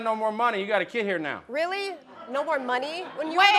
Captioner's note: audience chuckle